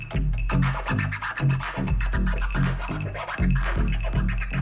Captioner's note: record scratches